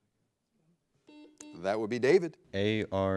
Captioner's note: buzzer blares